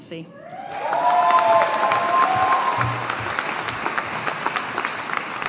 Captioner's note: audience applauding